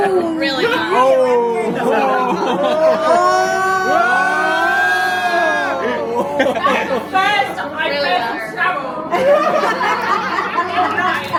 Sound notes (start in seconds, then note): 2.3 collective shock and gasp